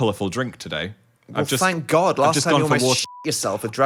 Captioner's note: beep